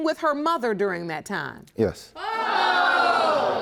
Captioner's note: audience groans loudly